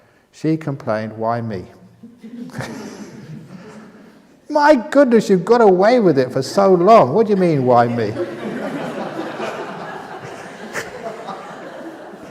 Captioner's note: laughter